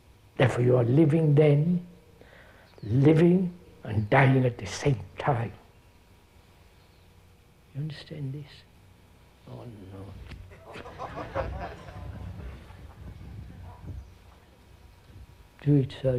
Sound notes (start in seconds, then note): 13.3 laughter